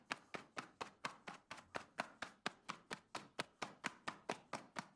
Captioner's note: chisel blade being flapped on a leather glove